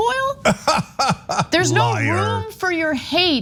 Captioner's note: laugh